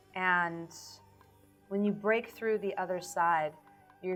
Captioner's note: none